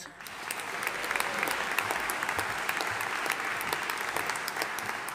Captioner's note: audience applauding